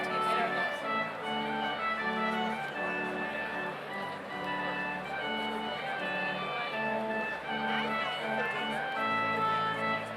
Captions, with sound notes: - Where's the TV? - I don't know. (overlapping chattering) (slow organ music continues)